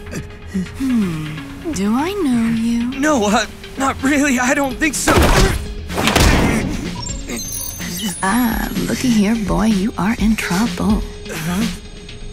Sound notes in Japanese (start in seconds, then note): 5.9 ダンッ！; 6.8 電子音